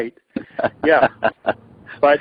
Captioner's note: laughs